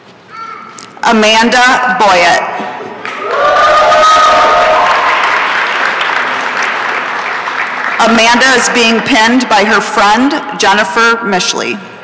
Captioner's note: applause and cheering